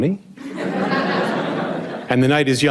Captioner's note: audience laughs